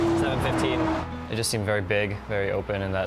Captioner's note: voiceover